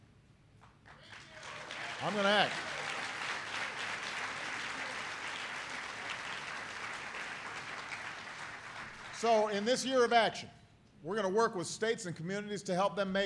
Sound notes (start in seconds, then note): 8.1 applause